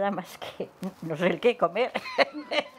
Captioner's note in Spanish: risas